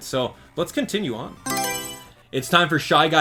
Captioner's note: Mario Selection Sound